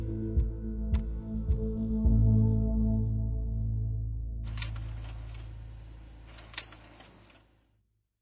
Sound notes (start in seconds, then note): 2.1 gentle music fades out; 5.7 printer flutters